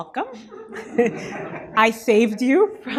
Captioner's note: audience laughter